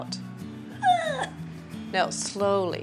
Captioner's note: pained exhale